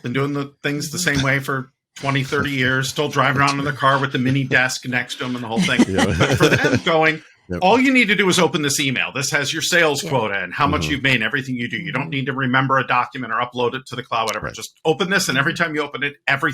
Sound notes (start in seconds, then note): 2.0 laughing; 6.0 both laughing